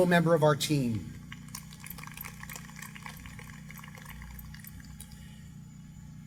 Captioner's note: applause